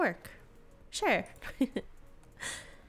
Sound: giggles

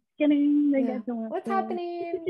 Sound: babbling

